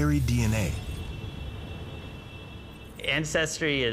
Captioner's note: street sounds